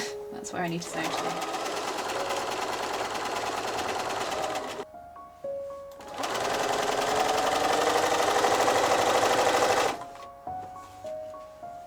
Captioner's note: sewing machine whirring